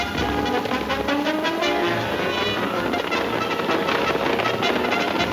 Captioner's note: hooves thundering